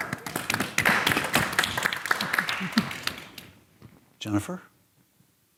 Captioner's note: audience applaud